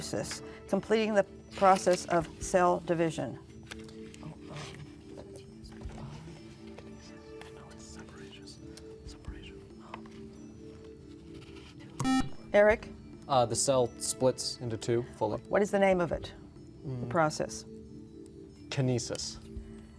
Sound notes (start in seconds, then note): 3.6 whispering; 6.7 soft music